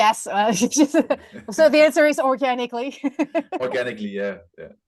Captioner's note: laughs